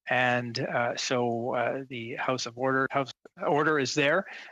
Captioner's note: speaking in French